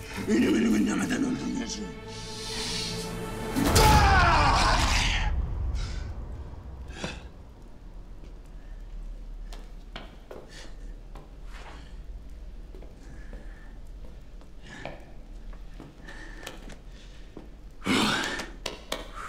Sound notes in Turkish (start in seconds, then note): 3.6 Haykırma sesi; 6.6 Nefes sesi; 17.7 Nefes sesi